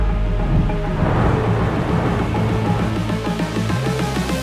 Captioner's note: artwork whooshing; upbeat music